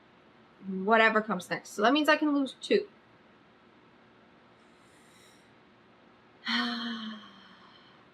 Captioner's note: sighs